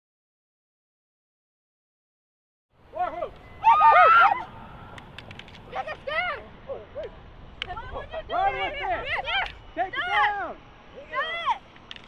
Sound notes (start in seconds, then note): 1.0 cheering and yelling